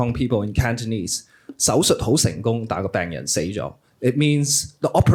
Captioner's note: speaking cantonese